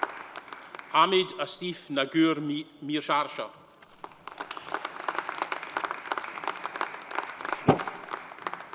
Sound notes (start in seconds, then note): 4.0 audience applauding